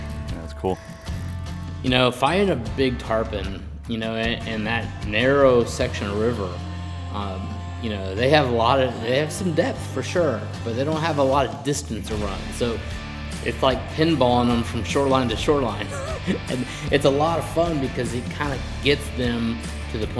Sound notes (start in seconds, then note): 15.5 chuckles